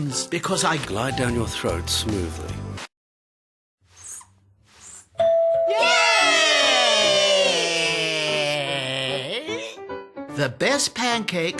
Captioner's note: ding dong